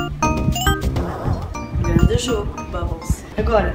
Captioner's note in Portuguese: sons do jogo